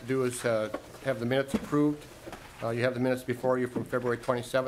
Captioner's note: gavel